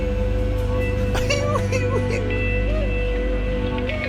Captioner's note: bizarre laughter